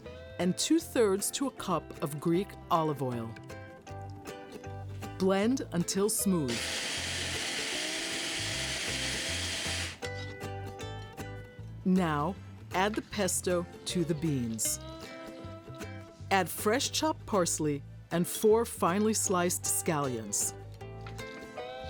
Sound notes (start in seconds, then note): 6.4 blender whirring